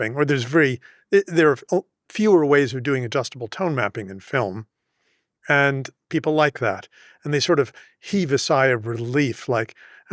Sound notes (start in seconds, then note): none